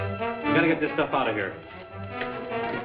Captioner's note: timer ticking